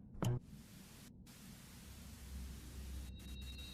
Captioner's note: TV static buzzing